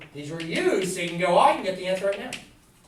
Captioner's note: voiceover